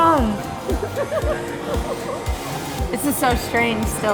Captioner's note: laughing